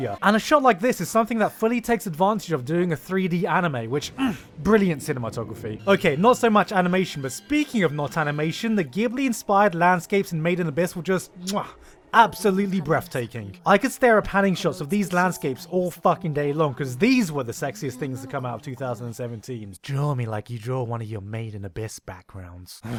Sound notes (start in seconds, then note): 4.1 mmph; 11.4 mwah